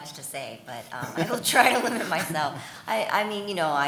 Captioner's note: chuckles